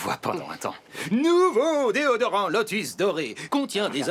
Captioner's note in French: avec un accent